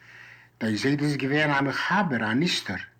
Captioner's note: in Yiddish